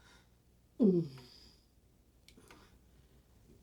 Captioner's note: moans